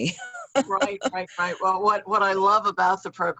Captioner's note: laughs